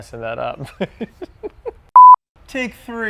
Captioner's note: laughing